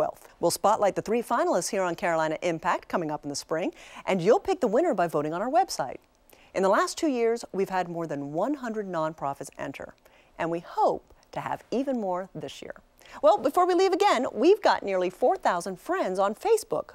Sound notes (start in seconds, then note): none